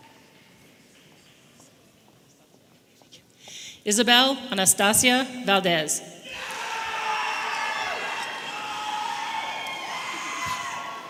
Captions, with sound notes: Isabel Anastasia Valdez. (audience members roaring)